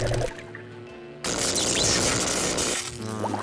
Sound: zapping

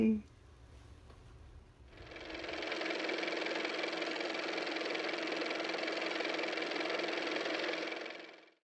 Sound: car motor

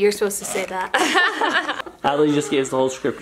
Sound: laughs

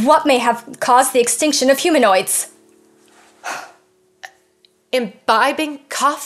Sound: sighs

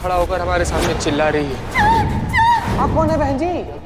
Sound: screaming

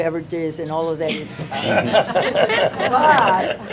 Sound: laughter

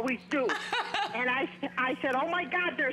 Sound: laughter

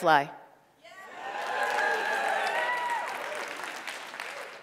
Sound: cheering

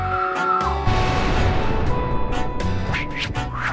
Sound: explosion

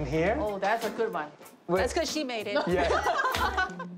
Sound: laughter

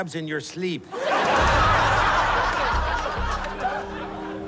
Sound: laughter

